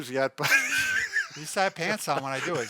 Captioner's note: laughing